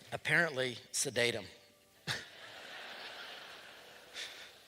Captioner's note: laughter